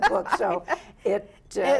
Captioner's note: laughs